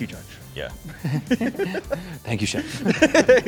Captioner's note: laughter